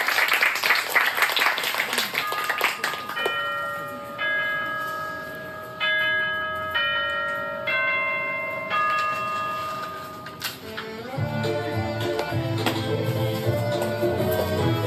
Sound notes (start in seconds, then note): 2.2 6AM chimes